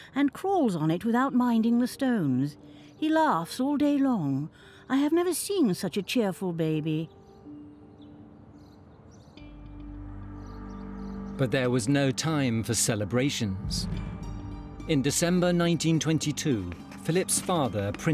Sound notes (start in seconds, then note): 7.5 birds chirping; 7.5 gentle music; 9.4 dramatic music